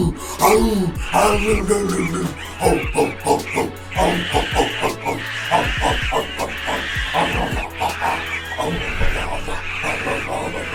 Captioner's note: primal grunts; ape screams